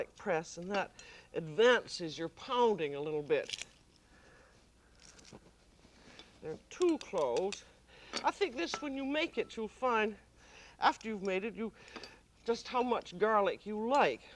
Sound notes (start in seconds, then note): 3.0 crackling